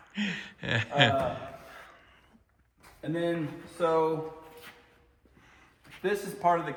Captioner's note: laughing